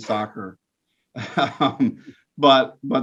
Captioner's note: laughs